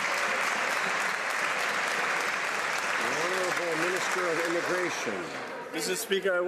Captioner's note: some Applause